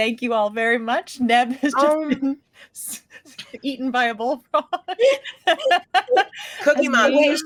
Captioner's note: laughing